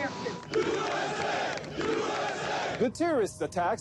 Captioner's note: crowd chanting